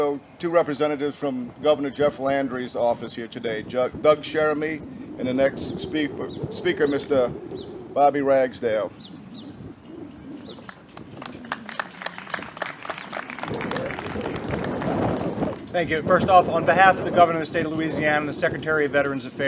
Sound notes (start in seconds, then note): 10.9 applause